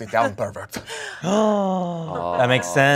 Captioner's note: gasps